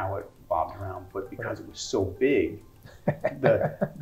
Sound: laugh

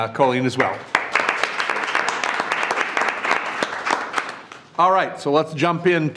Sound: everyone applauds

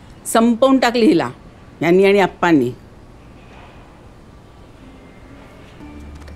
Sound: none

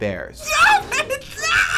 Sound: shrieking

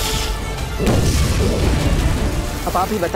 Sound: explosion

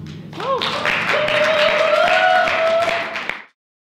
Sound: audience applauds

